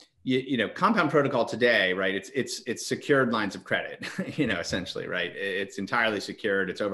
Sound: chuckles

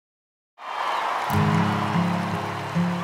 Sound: people cheering; lighthearted guitar music

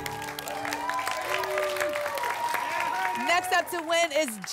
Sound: applause and cheering

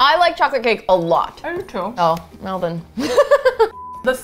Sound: laughs

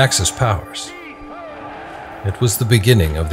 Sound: soldiers shouting

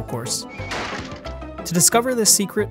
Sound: thudding

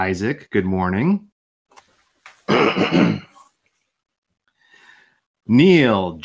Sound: clears throat

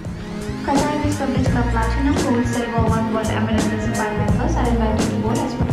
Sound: airport departure announcement

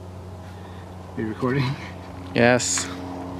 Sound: laughs

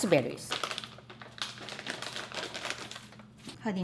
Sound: plastic crinkling

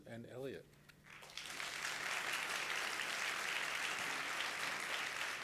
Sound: crowd applauding

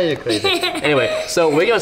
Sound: laughs

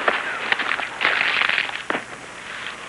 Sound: gun clicking

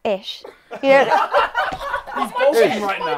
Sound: people laughing

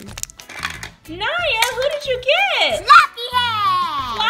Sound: voiceover

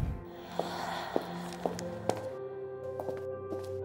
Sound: woman's breath; light music

